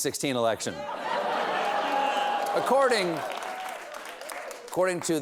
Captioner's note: laughter